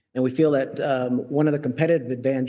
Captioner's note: none